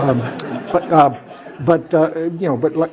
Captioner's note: laugh